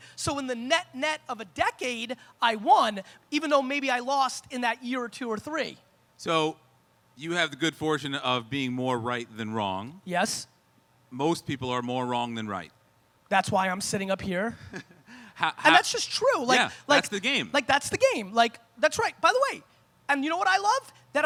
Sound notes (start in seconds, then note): 14.5 laughs